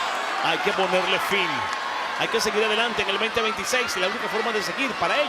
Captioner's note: crowd cheering; commentator speaking Spanish